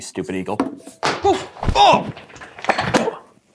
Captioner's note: groans